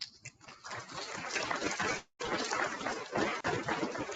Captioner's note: people clapping